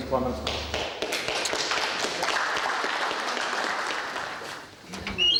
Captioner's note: applause